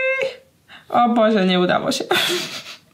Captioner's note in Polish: śmiech